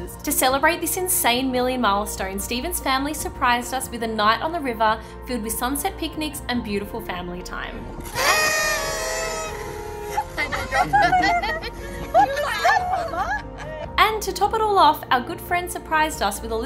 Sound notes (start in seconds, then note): 8.0 party horn unfurling; 10.2 people laughing